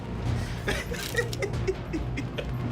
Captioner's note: laughs